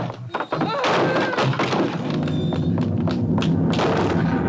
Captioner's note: chair clatters